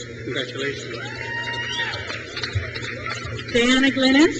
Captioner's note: crowd cheers